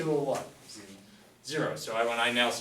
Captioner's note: voiceover